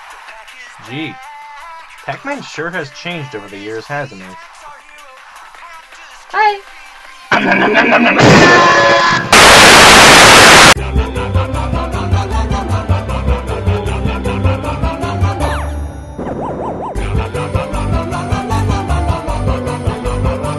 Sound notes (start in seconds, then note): 7.4 more screaming; 7.4 screaming; 9.1 static